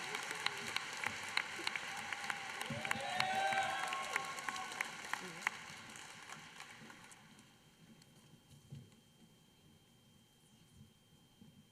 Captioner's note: applause